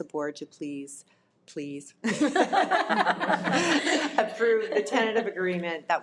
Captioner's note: audience laughs